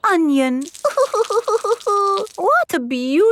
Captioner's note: crying